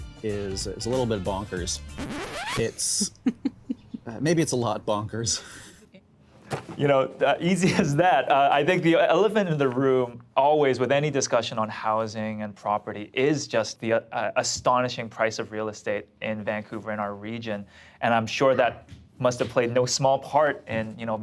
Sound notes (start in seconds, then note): 1.9 record scratching; 2.9 chuckling